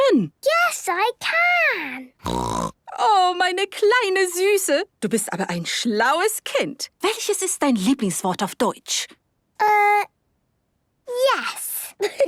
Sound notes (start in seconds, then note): 2.2 snorting; 2.8 speaking German; 12.0 laughter